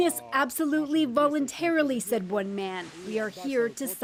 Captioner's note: speaking alternate language